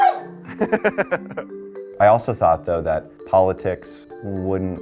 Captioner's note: dog barking; laughing